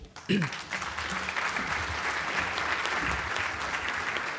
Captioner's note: applause